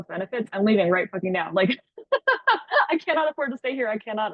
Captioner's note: laughs